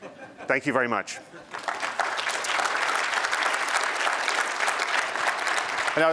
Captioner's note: applause